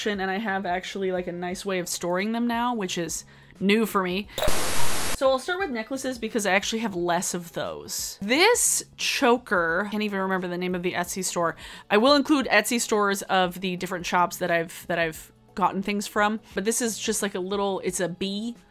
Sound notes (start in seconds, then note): 4.4 static crackling